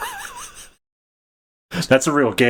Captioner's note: laughs